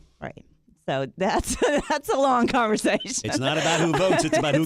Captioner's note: laughs